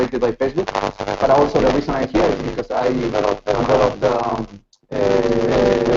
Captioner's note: speaking through static